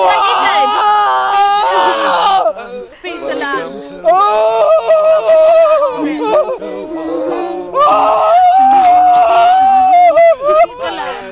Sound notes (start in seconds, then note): 4.2 tourist screaming; 6.3 local Woman humming; 6.3 tourist screaming